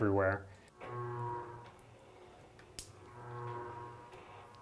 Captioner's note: machine whirs